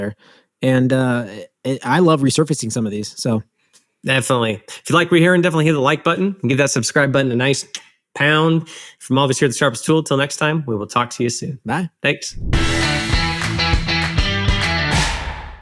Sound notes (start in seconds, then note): 8.1 lips smacking; 12.4 bright energetic music